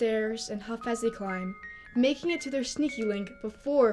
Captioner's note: none